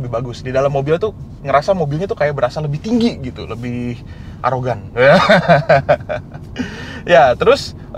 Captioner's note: laughing